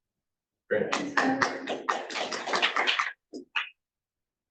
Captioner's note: audience clapping